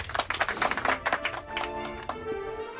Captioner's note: audience clapping; upbeat music